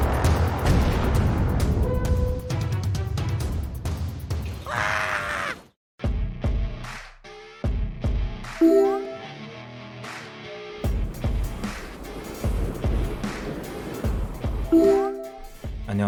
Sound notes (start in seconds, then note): 4.6 screaming; 6.4 intense music; 10.9 whooshing; 15.8 speaking korean